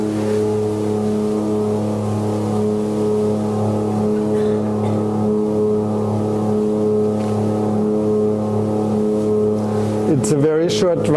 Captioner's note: airplane humming